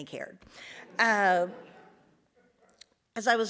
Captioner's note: audience laughs